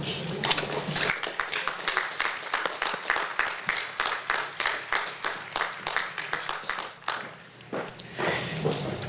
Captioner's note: applause